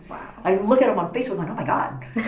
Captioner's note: all laugh